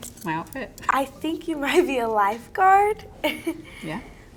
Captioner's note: laughs